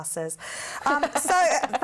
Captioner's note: laughter